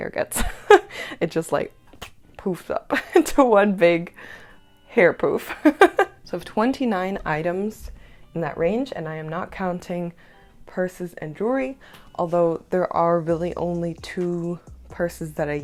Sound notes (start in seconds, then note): 0.2 laughter